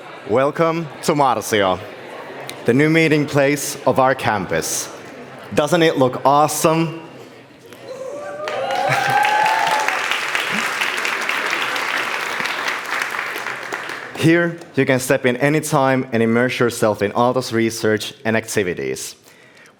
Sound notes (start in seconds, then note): 8.3 applause